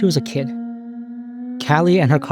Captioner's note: whale calls